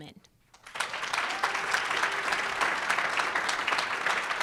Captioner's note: audience applauds